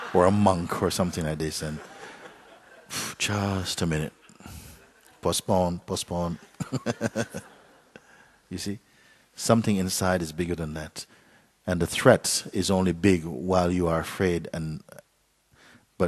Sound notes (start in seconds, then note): 6.4 Mooji laughs